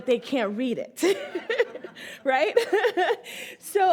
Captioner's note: all laugh